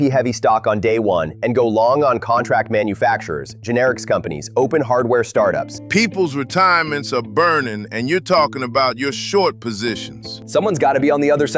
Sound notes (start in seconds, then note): 7.1 exasperated